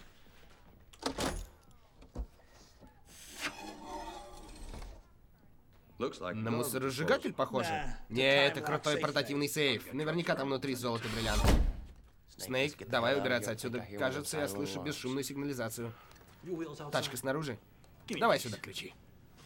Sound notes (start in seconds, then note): 0.9 latches open; 3.1 air hissing